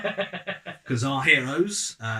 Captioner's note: laugh